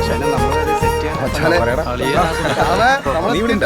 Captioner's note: indistinct chatter